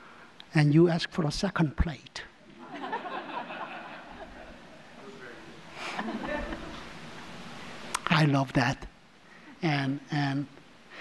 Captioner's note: audience laughs